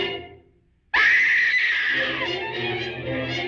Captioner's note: screaming